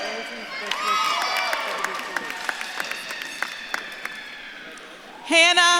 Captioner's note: audience claps and cheers